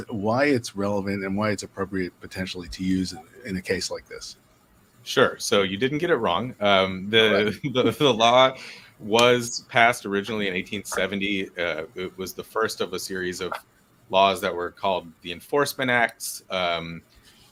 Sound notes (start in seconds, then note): 7.3 laughs